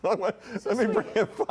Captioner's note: laughter